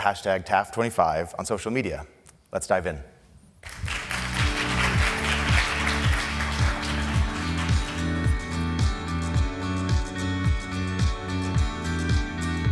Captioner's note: applause